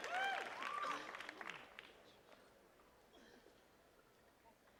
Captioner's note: attendees cheering and clapping; attendee coughs